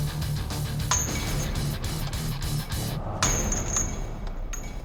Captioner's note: clanking